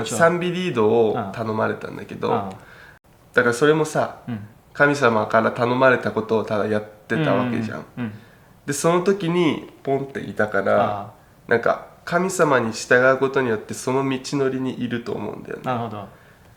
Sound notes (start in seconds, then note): 11.0 poof